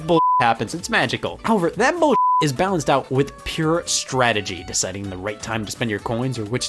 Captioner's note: beep